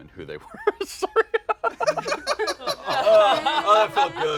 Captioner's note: laughter; laughs